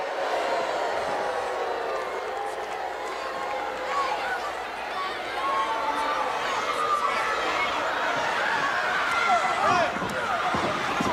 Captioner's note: crowd cheering; crowd chatter